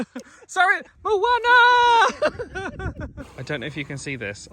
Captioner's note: laughs